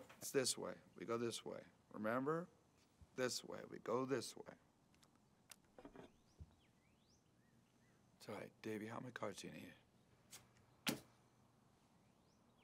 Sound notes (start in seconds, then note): none